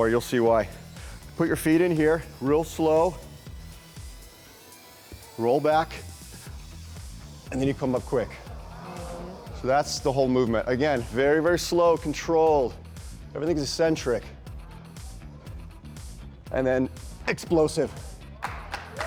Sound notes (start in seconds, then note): 8.0 crowd marvels